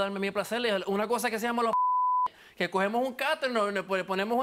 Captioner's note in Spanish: Bip